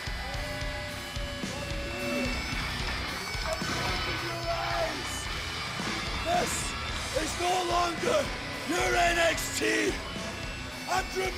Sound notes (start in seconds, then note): 2.6 cheers and applause